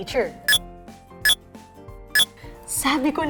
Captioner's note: MindBlower beeps